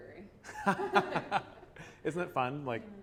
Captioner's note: laughter